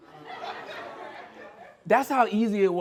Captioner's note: scattered laughter